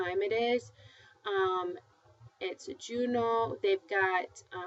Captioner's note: spanish